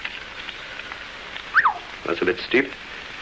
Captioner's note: whistles